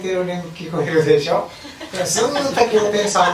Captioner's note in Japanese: 笑い声